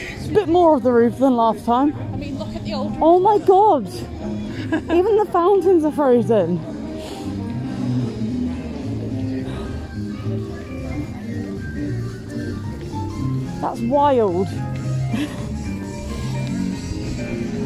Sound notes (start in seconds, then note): 4.5 laughs; 6.7 music plays